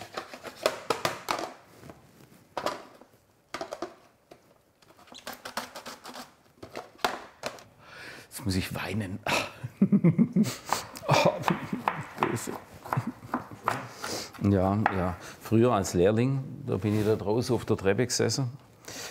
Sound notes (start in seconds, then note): 0.1 clattering; 9.6 giggles; 10.4 sniffles; 11.2 quietly; 13.8 sniffling